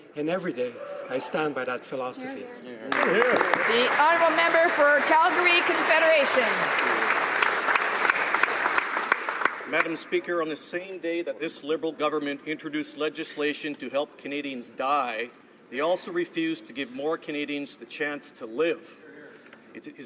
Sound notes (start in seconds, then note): 6.4 some Applause